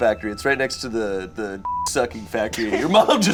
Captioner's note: beep